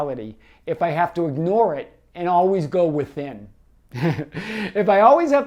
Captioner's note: laughs